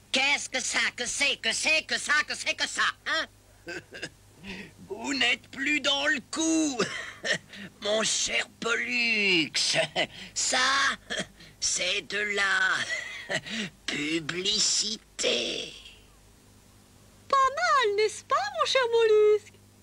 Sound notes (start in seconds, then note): 4.4 wheezing; 7.7 chuckles